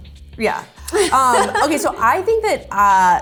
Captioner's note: laughs